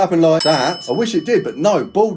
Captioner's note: bell dinging